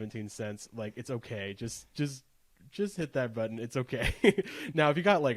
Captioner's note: laughs